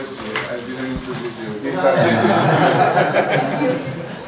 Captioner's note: laughter